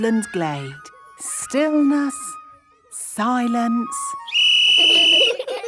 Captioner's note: whistle blowing; laughter